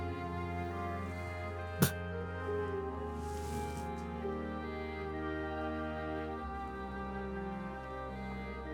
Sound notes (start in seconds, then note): 2.0 spitting